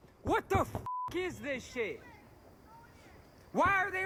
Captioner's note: beep